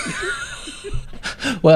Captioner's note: laughing